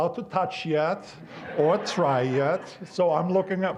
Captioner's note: audience laughing